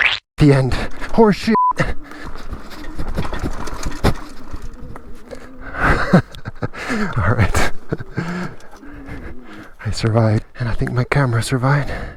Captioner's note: laughs